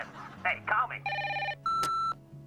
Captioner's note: answering machine beeps